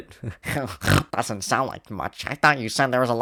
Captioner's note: chuckles; snort